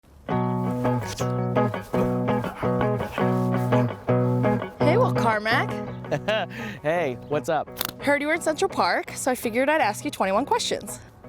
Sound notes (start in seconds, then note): 0.0 guitar music; 6.0 chuckles